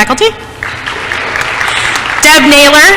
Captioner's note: applause